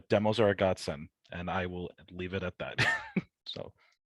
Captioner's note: chuckles